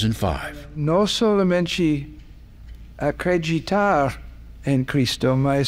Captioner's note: speaking Portuguese